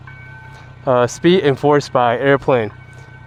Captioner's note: aircraft